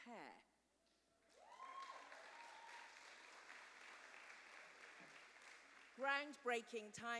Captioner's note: cheers and applause